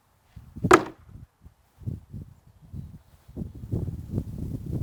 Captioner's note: wood clunking